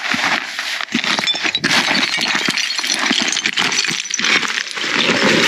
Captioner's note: rustling and rattling